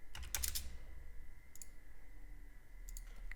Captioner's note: typing